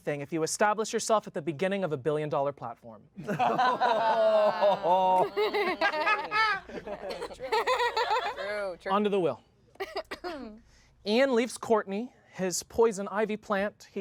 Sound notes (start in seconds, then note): 3.2 everyone laughs